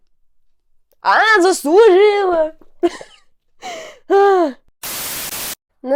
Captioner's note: laughter